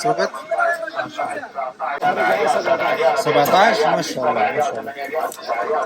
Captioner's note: Arabic